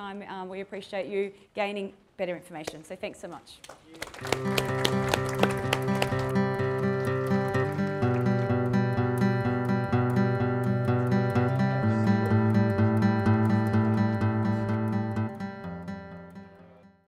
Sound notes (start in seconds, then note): 3.8 audience applause